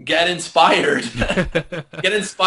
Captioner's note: laughter